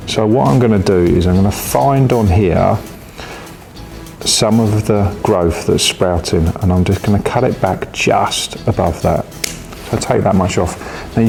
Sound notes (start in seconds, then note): 9.4 scissors snip